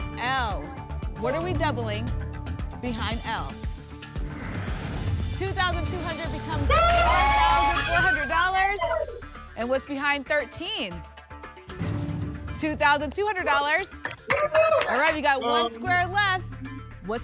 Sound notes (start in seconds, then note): 4.2 whoosh; 6.6 cheering